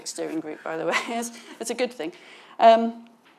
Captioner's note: laughs